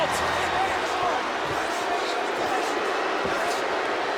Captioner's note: audience jeers